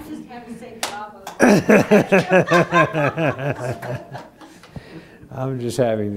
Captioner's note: clapping of hands